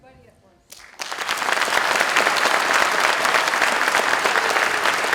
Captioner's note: applause